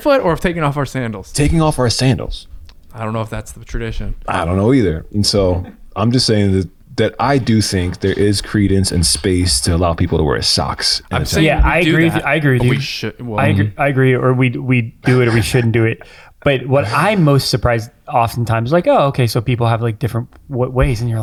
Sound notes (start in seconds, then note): 5.5 chuckles; 15.0 chuckles